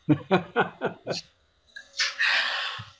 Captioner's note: laughs